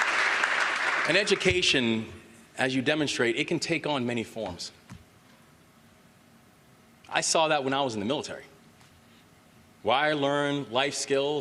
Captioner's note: applause